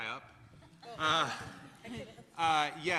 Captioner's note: laughter